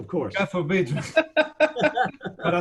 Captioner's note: laughing